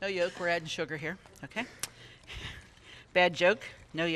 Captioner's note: laughs